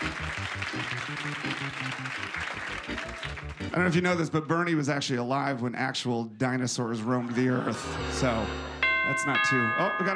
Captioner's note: applause